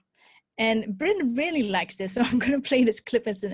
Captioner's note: laughs